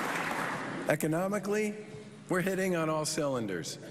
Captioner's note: applause